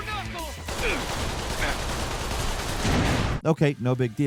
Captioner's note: guns firing